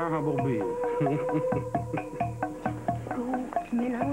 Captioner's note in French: Rire